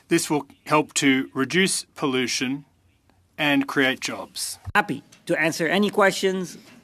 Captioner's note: speaking French